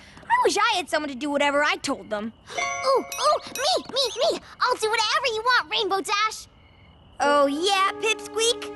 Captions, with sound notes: I wish I had someone to do whatever I told them. [ Poink! ] Ooh! Ooh! Me! Me! Me! I'll do whatever you want, Rainbow Dash! Oh, yeah, pipsqueak?